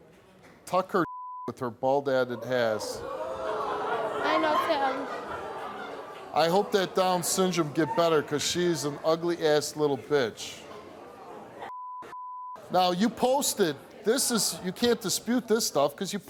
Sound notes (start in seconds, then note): 1.0 beep; 11.7 beep